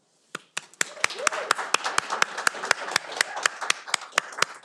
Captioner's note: all applauding